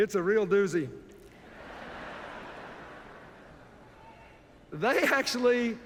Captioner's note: laughter